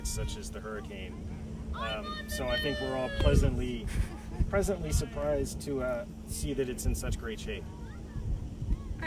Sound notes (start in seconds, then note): 1.4 kids yelling